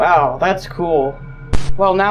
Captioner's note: ominous glitch; glitch